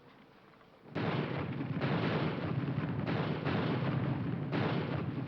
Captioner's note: bombs exploding